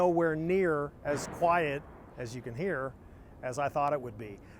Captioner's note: metal thudding